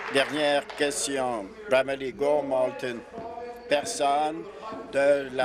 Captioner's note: applause